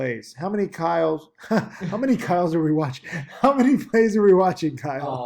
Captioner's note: laughs